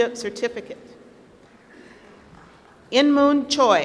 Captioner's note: applause